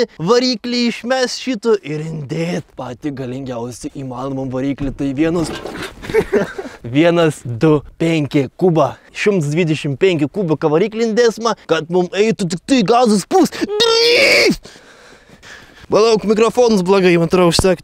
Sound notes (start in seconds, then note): 13.6 meaningless screaming